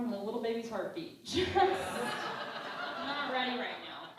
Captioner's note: laughing